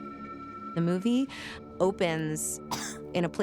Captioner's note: coughs